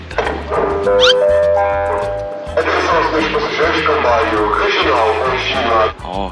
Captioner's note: An announcement is being made at the train station